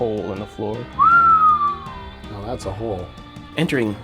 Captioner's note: whistles